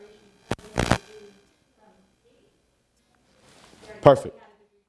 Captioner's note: buzzing drowns out speaker